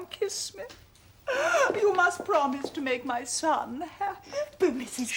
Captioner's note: sobbing